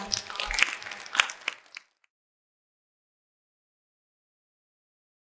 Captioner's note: applause